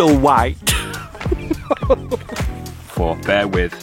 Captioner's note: laughs